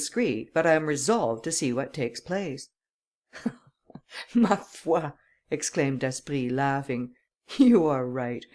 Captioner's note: laughter